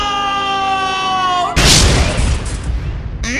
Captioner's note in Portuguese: boom